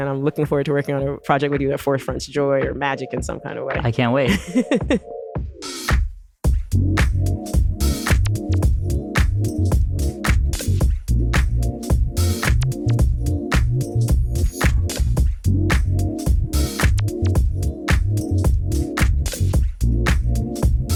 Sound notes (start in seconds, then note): 4.2 laughter